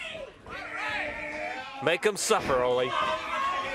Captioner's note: crowd cheering